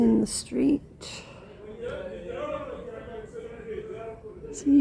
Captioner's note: shouting